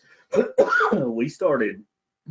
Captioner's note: coughs